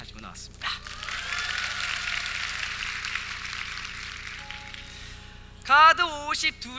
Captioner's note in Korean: 박수